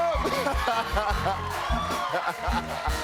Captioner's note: cheers and applause; laughs